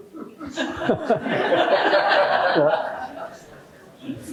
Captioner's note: laughter